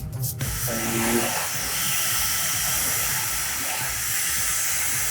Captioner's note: upbeat music; hair dryer whooshing